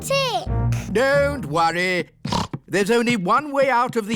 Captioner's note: snorts